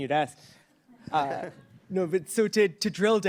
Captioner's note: laughs